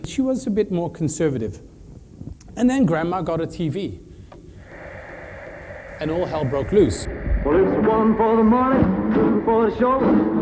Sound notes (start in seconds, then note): 4.2 static